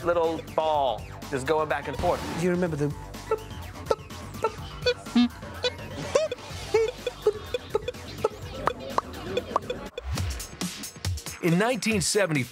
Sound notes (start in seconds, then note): 6.0 mimics "pong" sounds